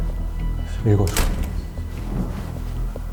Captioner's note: door opens